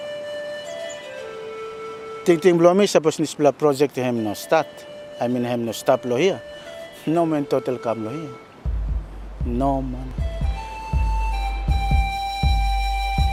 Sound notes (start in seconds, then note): 2.4 speaks in foreign language